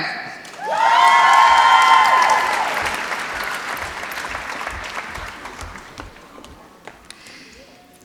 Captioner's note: applause